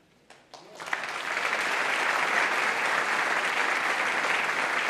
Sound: applause

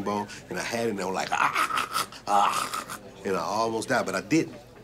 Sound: gagging

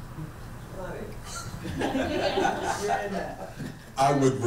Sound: laughing

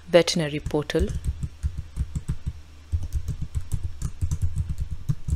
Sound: keyboard clacking

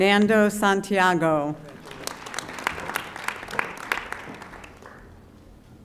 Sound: audience applauding

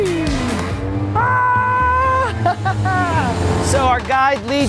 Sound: excited screaming

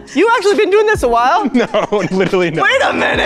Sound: laughs

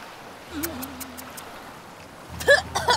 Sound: kissing; spluttering

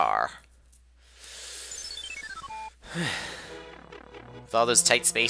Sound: breathing

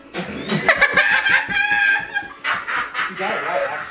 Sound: both laughing

